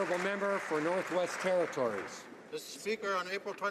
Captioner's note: some Applause